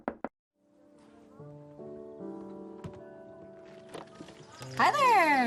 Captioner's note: knocking